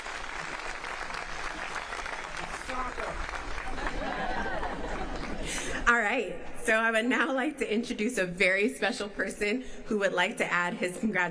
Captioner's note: applause